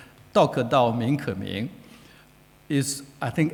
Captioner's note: speaking foreign language